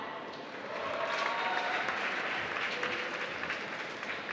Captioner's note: applause